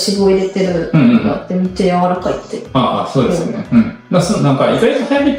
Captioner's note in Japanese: 咳払い